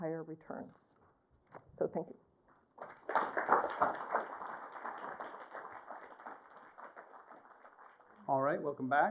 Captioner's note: applause